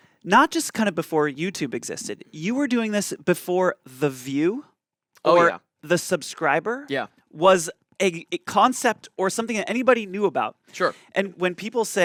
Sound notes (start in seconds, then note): none